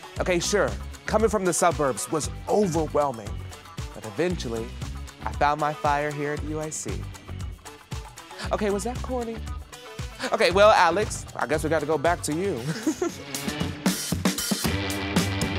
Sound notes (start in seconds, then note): 12.6 laughs; 13.3 groovy jazz music